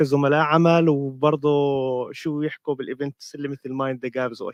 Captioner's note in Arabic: لغة أجنبية; لغة أجنبية